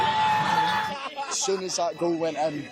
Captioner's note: cheering